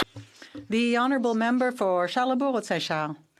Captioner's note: some Applause